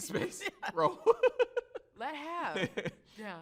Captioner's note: both chuckle